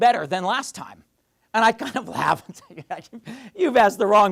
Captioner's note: laughing